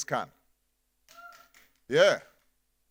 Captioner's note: audience cheering